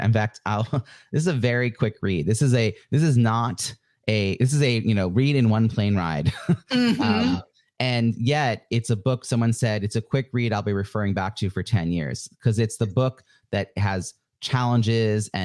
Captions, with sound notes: In fact, I'll, this is a very quick read. This is a read in one plane ride (laughs). And yet it's a book someone said, "It's a quick read I'll be referring back to for 10 years." 'Cause it's the book that has challenges